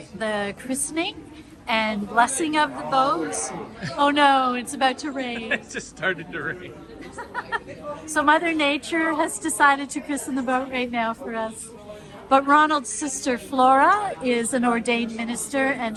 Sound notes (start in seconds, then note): 6.9 laughs